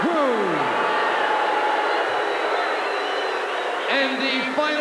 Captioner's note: crowd booing